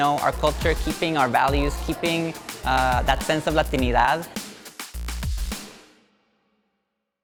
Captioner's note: speaking spanish